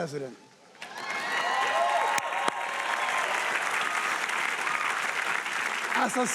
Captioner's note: audience applauding and cheering